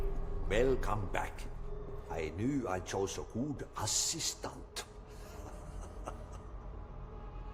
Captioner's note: chuckles